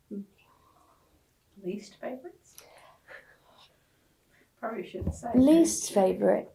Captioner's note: laughs